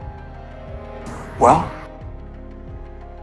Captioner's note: voiceover